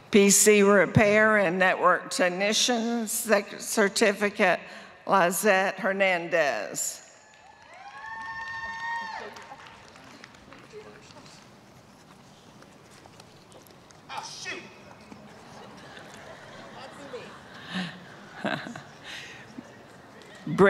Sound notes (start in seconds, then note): 11.0 applause; 18.2 laughter